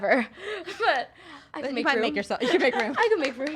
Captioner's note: laughs